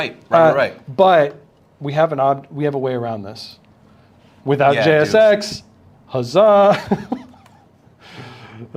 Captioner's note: laughs